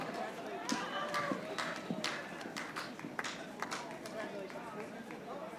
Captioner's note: audience applauding